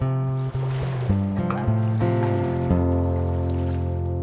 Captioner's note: water sloshing